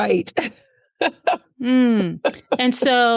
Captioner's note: laughs